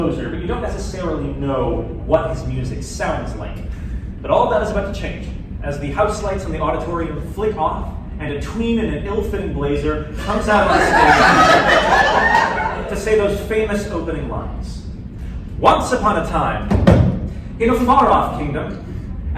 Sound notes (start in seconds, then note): 10.2 laughter